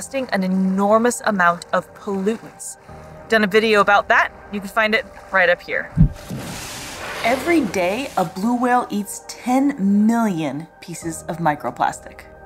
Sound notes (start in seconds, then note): 6.0 background music; 6.1 whale spouting water noise